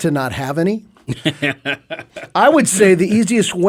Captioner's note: laughing